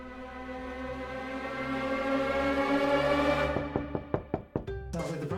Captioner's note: knocks on door